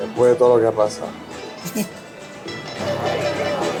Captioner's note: laughs